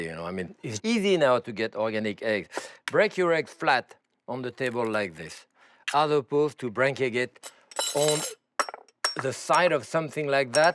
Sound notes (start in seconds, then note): none